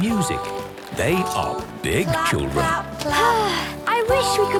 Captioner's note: Belinda sighing